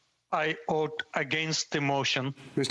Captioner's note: speaking French